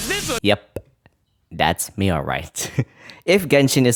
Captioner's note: crazy giggling